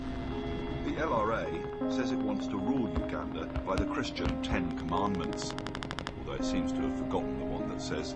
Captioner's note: another radio newscast